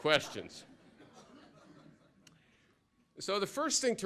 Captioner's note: laughter